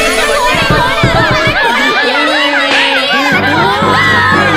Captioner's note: Crowd.....Knocking